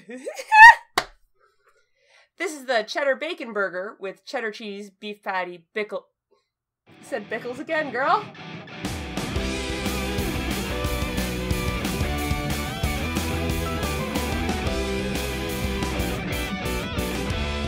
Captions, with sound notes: [laughter] The cheddar bacon burger with cheddar cheese, beef patty, bickle-- you said pickles again, girl!